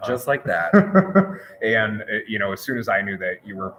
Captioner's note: laughs